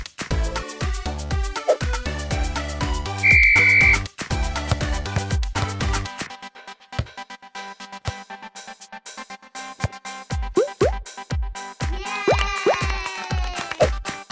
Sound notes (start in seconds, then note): 3.2 whistle; 11.9 cheering